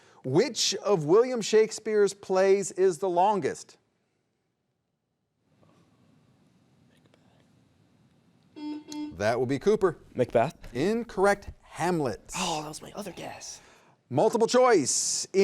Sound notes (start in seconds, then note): 6.3 whispers; 8.6 button beeping